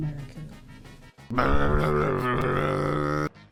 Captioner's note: 4-Ball's raccoon growls